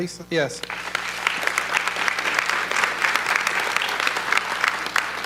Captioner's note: audience clapping